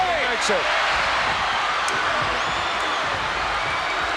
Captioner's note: audience cheers